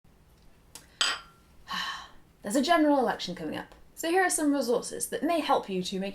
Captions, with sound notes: [Cup clinks on saucer] [Exhale] There's a general election coming up so here are some resources that may help you to make